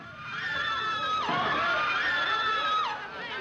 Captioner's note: people screaming